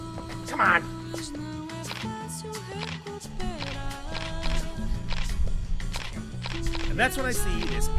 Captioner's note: camera Sounds